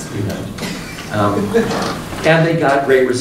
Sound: woman laughs

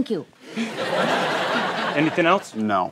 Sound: laughter

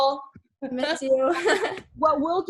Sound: laughs

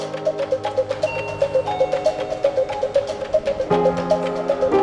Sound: elevator bells dings

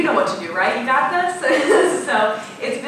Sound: laughing

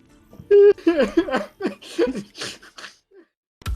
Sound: cry

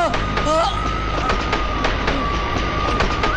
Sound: train Running Sound

